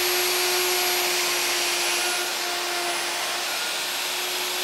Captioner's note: machine whirring